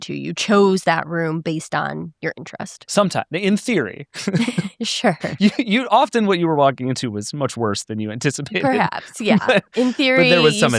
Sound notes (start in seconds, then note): 3.0 chuckles